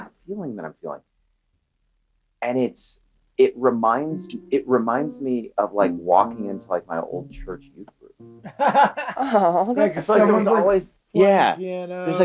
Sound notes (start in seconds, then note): 8.3 Charlie laughs